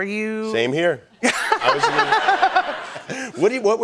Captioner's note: laughter